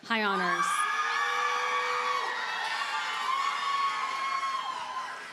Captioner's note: audience cheers and applauds